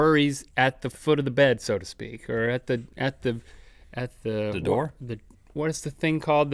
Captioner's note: none